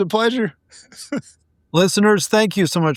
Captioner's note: laughing